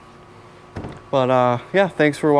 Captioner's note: hand tapping